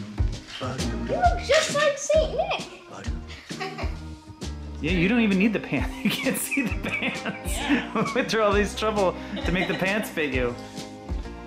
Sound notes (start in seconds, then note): 3.3 laughs; 5.8 laughs